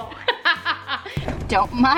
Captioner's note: laughter